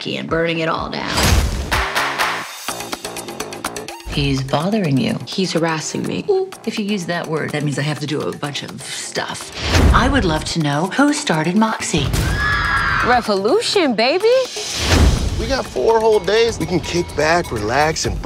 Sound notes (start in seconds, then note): 3.0 upbeat music; 12.2 girls screaming